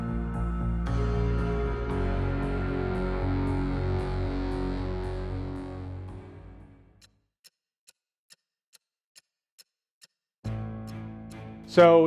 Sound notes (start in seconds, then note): 7.2 clock ticking; 10.4 tense dramatic music